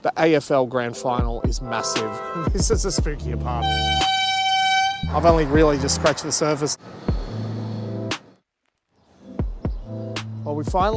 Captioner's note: horn beep